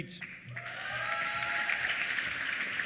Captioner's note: applause; cheers